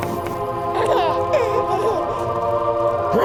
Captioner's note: baby gurgles